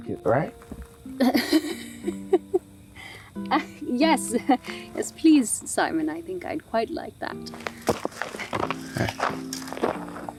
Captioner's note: laughter